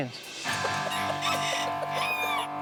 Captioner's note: crowing